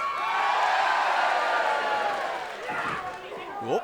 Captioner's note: cheers & applause